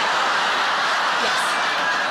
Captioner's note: audience laughs